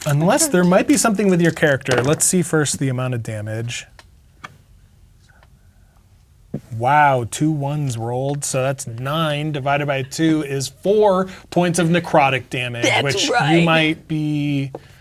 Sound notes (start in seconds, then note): 4.6 counting quietly